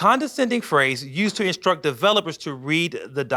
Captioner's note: none